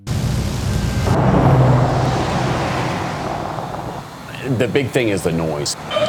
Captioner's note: whirring, traffic sounds, buzzing